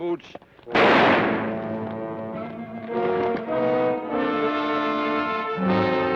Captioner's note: gun fires; ominous orchestral music